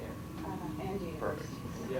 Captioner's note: audience talking